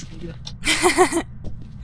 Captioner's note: laughing